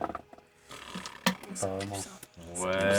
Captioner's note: whispering